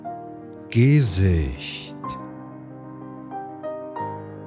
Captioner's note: german